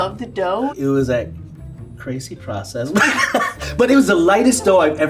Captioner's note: laughs